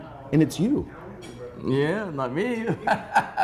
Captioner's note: laughing